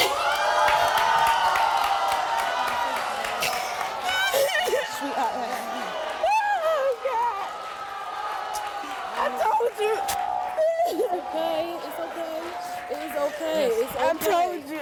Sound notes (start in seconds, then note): 0.2 audience yelling; 3.4 sobbing